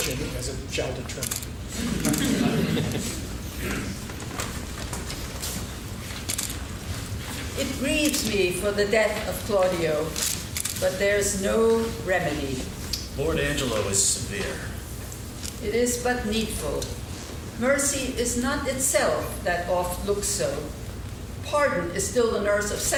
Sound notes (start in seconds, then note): 4.5 laughing